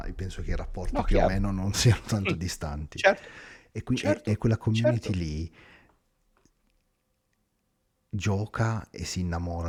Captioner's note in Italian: risate